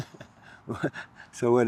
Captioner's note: both laughing